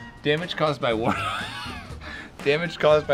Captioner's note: laughter